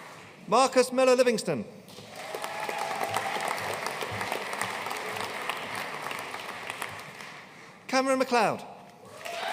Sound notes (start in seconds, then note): 2.0 audience cheering and applauding